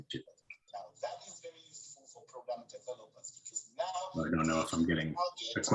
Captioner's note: background chatters